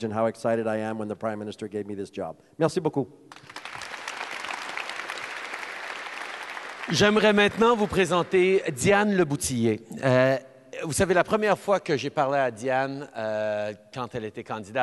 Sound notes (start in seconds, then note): 3.3 applause